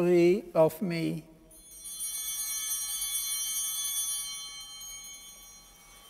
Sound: bell ringing

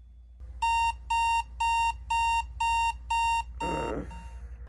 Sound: alarm beeping

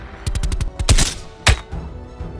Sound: gunfire

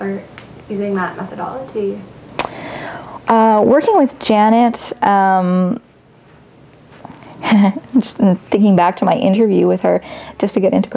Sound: laughs

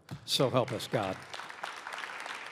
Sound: applause

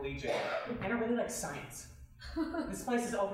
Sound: chuckling

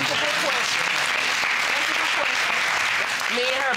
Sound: audience applauding

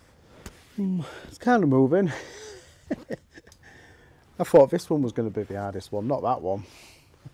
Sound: nervous laugh

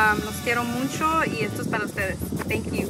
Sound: speaks in foreign language

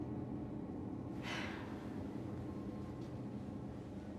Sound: sighs

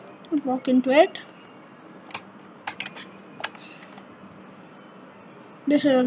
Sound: silence

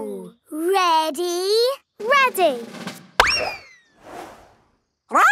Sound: bang

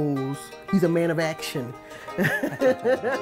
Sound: laughs

